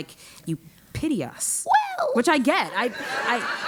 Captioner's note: laugh